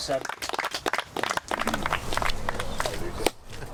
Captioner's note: applause